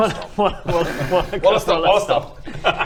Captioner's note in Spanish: riendo